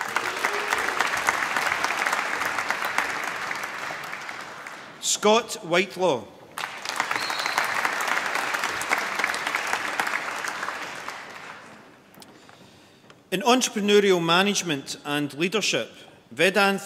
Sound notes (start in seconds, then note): 0.0 applause; 6.5 applause